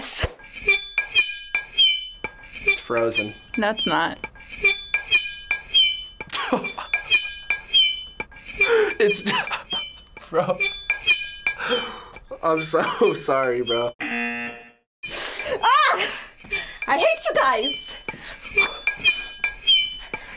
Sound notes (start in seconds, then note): 0.1 knife scraping; 4.2 knife scraping; 13.7 buzzer; 18.1 knife scraping